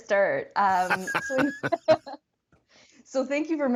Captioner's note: laughs